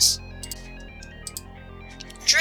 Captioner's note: unedited click sounds 😭